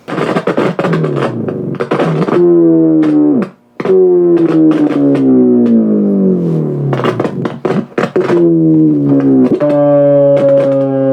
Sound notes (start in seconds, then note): 0.1 rough electronic scratching sound; 1.5 scratching sound changes to a low continuous tone